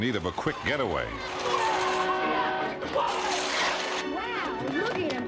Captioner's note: shouting; horn honking